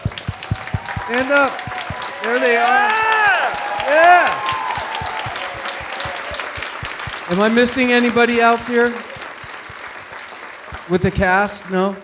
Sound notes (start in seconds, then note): 0.3 audience cheering and clapping; 5.3 all clapping